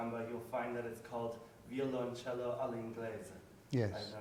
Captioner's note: speaks in foreign language